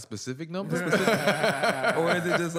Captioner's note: laughter